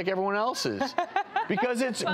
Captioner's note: laughing